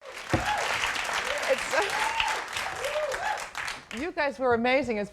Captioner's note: audience clapping, cheering